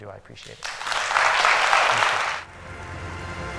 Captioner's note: applause